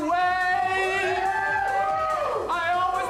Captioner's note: friends cheer